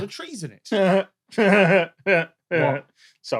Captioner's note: chuckles snidely